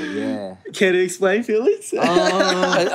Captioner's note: laughs